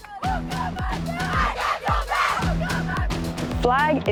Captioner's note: chanting